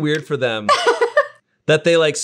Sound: laughing

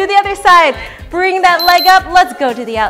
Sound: beeps

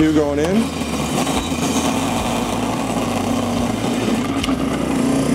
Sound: carrots shredding

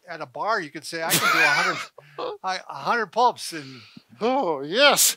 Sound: chuckles

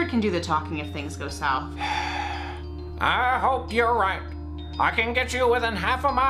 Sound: sighs

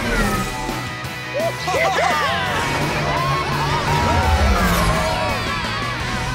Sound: cheering

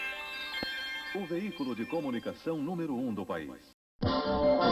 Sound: male announcer speaking Portuguese

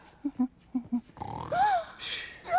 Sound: snoring; gasps

